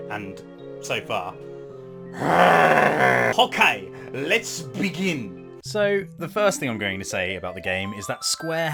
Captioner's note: growls